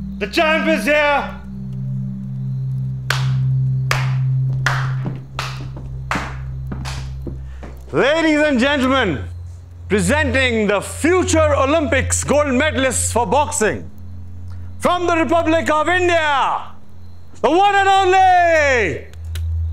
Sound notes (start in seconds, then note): 3.0 Clapping